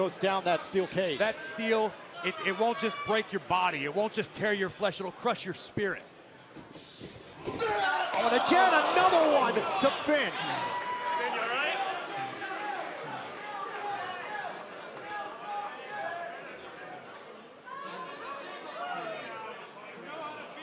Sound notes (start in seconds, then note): 9.0 crowd chatter; 17.2 crowd chatter